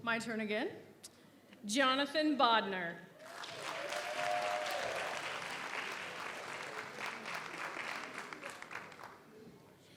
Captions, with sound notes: - My turn again. Jonathan Bodner. (audience applauds) (audience cheers)